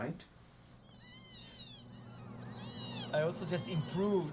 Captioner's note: kittens mewing